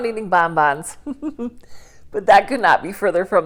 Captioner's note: chuckles